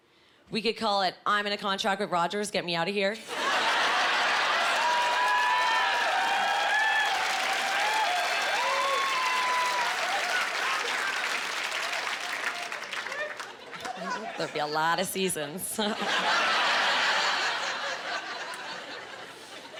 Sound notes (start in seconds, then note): 3.3 laughing; 15.7 laughing